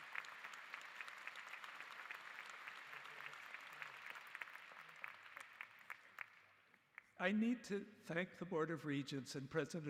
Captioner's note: applause